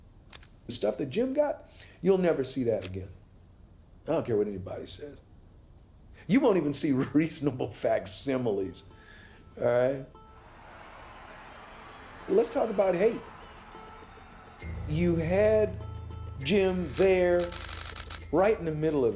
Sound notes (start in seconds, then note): 11.5 distant crowd; 17.4 flash snaps